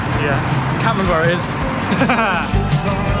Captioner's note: laughter